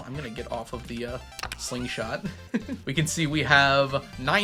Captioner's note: giggles